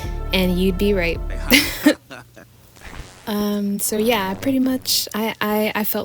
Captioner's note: nervous laughter